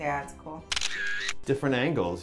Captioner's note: camera shutter click